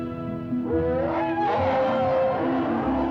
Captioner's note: bellowing